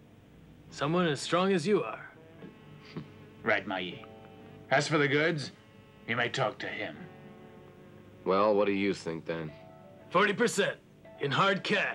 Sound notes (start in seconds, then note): 2.8 chuckles